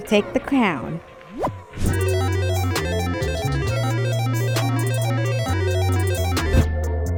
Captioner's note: crown whooshing; prize beeping